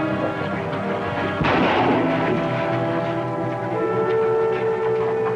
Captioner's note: gunshots